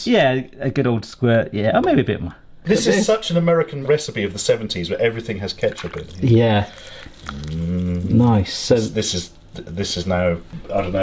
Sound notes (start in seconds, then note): 4.9 milk splashing; 7.2 humming